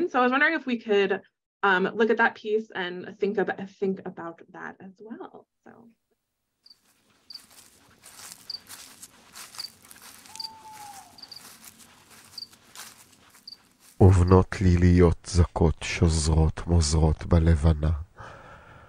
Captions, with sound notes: So I was wondering if we could look at that piece and think about that as well. So. (bugs chirping) (footsteps crunching) (owl hoots) (footsteps crunching) (narrator speaking in foreign language)